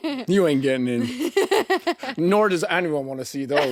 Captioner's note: chuckling